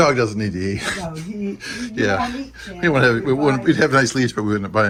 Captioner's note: laughing